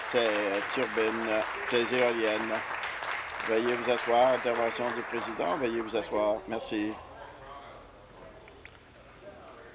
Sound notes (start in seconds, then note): 4.8 applause